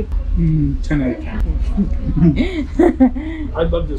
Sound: both laughing

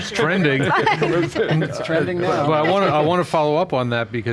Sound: all laughing

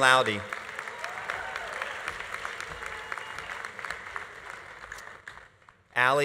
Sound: audience applauding; audience cheering

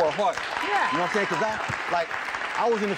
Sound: crowd cheering

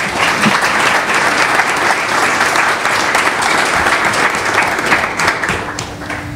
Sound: applause

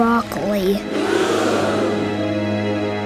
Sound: audience gasping

